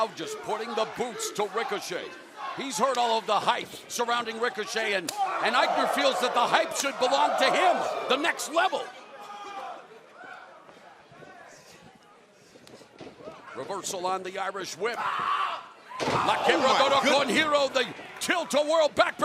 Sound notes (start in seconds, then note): 8.4 crowd chatter; 16.0 speaking in foreign language